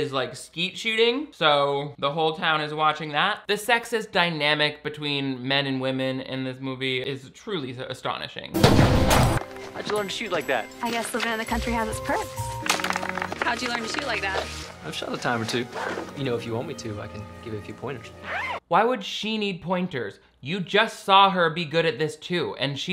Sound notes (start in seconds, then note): 9.2 gun popping